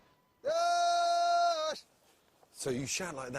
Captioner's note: reindeer call